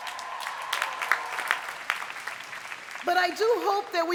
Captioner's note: cheers and applause